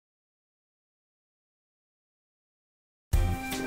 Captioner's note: silence